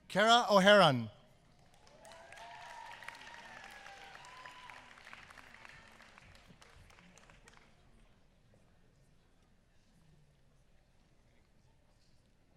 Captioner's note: applause